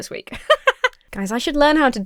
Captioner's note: laughs